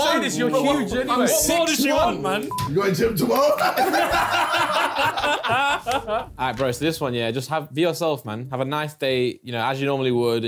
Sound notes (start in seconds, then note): 2.4 beeping; 3.3 laughing